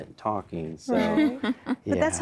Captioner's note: giggling